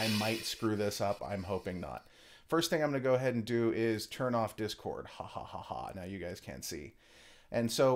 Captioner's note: evil laugh